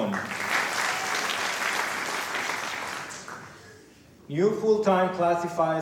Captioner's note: applause